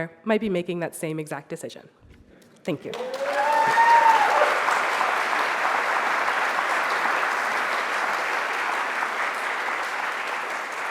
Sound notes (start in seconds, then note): 2.8 audience applauds